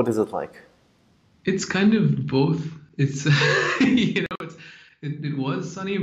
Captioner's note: laughs